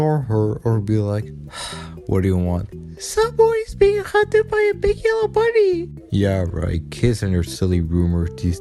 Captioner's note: sigh